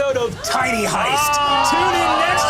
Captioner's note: group exclaiming